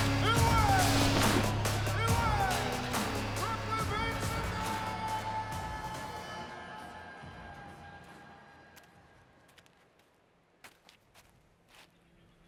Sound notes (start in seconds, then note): 9.0 footsteps approaching